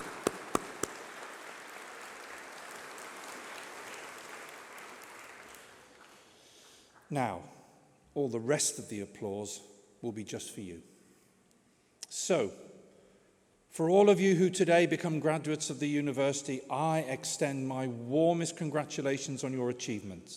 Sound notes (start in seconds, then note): 6.0 applause